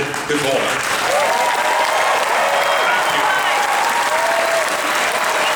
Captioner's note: audience Applauds